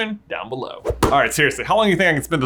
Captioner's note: transition whooshes